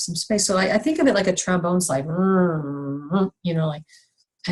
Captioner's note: rrrrrr rrrrr